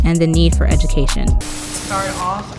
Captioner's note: television static noise